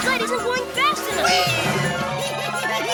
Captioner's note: giggling